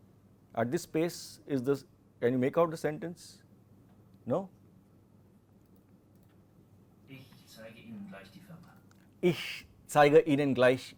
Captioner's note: textbook audio is played